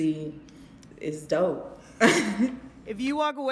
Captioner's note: laughs